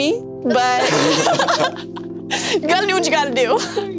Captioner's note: all laugh